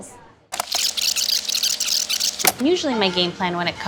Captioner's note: audio squeaking